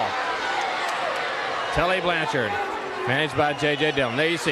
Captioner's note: crowd cheering